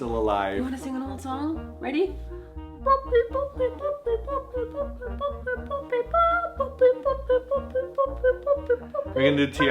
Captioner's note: various boops and noises